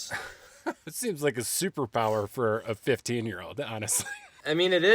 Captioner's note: laughing